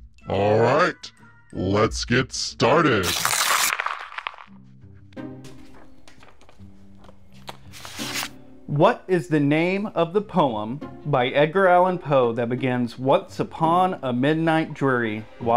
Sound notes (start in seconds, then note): 2.9 paper ripping; 4.6 paper rustling; 7.7 paper shuffling